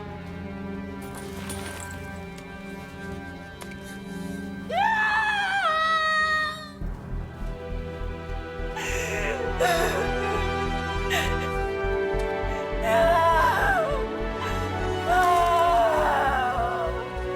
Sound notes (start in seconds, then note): 4.7 Cleopatra screaming; 8.8 Cleopatra crying